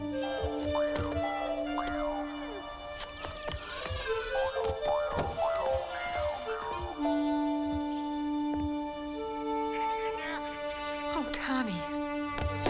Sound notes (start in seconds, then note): 0.2 low furtive music; 3.2 window squeaking